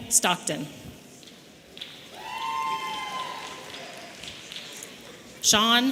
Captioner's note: audience cheering